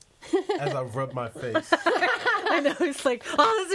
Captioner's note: all laughing